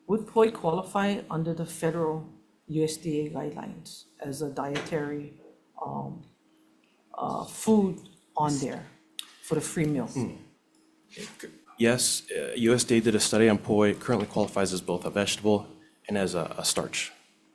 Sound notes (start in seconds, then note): none